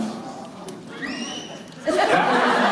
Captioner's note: baby screeches again